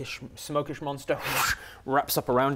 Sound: fwoosh

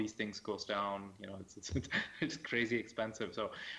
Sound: laughs

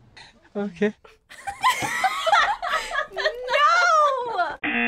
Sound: both laugh

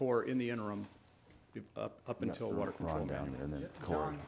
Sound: men muttering

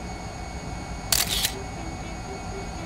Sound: camera click

